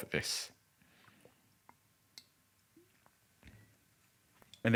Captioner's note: liquid pours